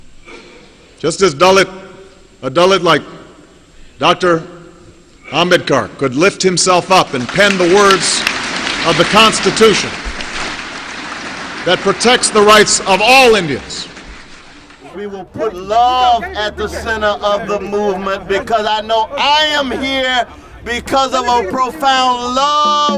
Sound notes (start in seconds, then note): 13.5 applause